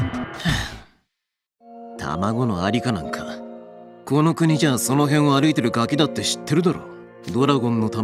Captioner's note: sigh